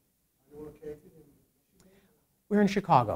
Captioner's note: man speaking in background